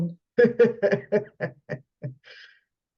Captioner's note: laughs